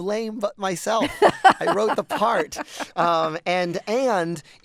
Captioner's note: laughter